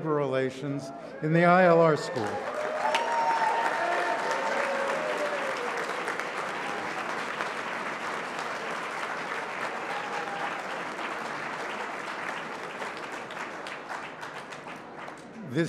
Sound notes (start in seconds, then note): 2.0 applause